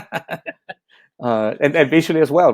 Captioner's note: laughing